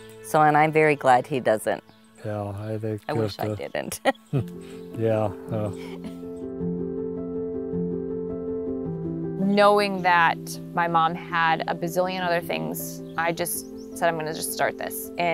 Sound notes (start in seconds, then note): 3.1 laughing; 5.5 chuckling